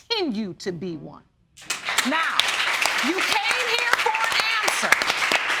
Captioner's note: applause